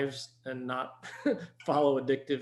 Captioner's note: chuckles